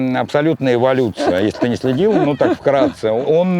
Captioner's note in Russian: смеётся